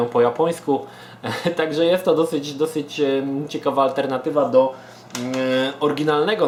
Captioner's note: chuckles